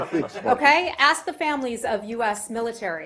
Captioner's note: laughter